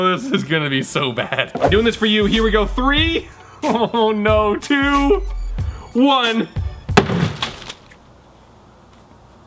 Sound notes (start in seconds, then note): 0.0 chuckles; 6.9 hammer smashes